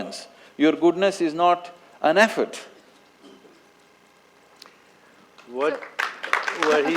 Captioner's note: applause